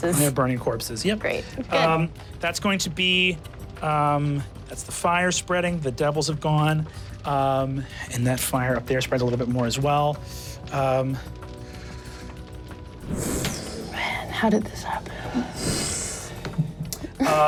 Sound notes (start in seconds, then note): 10.1 fire whoosh; 15.5 whoosh